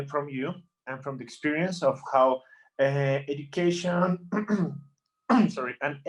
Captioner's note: coughs